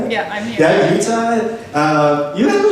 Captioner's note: voiceover